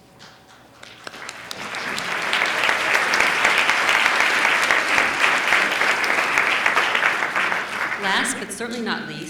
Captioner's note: applause